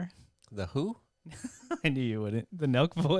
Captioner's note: laughs